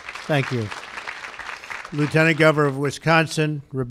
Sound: applause

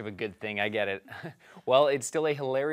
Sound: chuckles

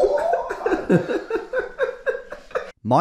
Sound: laughing

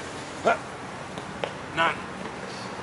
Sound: grunts

